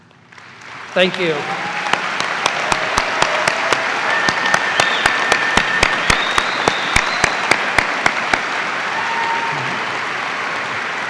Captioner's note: cheers and applause